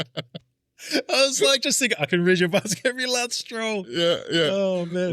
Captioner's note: laughing